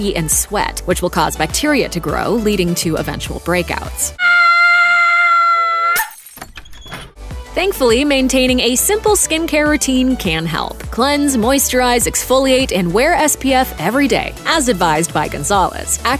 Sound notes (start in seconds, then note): 5.9 mirror breaks